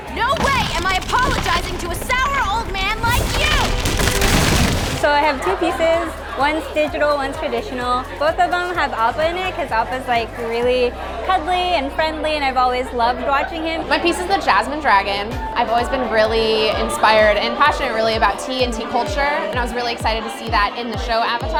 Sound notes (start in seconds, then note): 3.3 ice cracks